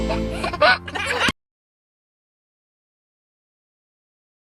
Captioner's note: toddler chuckling